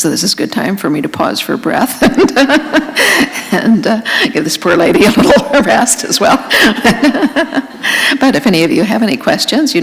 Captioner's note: laughter